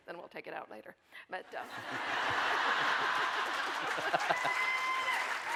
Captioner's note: audience laughing